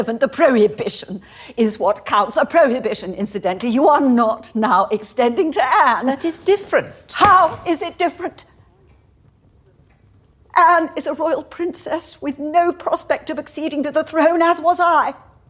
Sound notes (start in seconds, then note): none